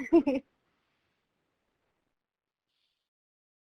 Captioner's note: laughing